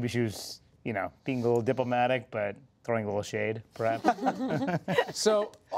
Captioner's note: laughter